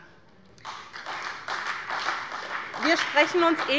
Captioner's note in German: Beifall bei der SPD